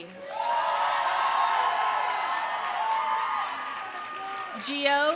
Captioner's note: audience applauding; audience cheering